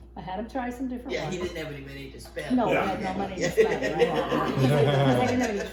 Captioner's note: laughing